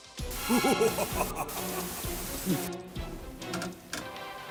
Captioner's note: monster laughing; upbeat music